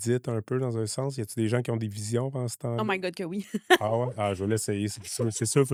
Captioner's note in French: rires